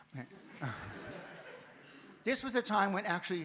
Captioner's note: audience laughs